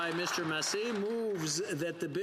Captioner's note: applause